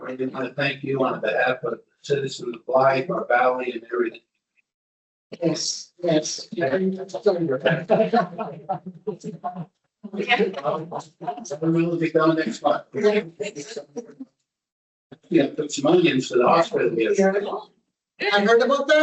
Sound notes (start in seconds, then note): 6.4 overlapping voices, laughter